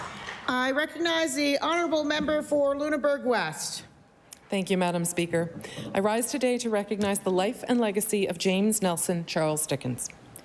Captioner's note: applause